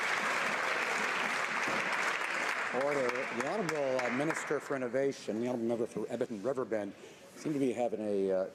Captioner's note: applause